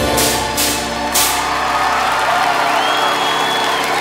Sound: applause

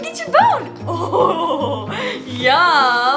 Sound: laughs loudly

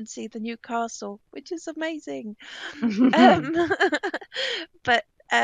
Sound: laughing

